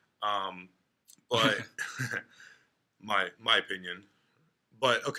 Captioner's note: laughing